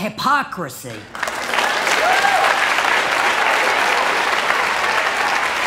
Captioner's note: applause and cheering